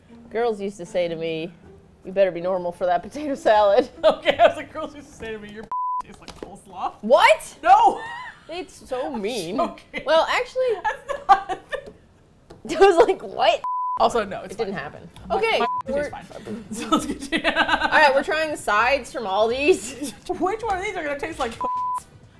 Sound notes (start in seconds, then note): 3.8 laughs; 7.7 laughing; 7.7 laughs; 10.8 laughing hysterically; 16.4 laughs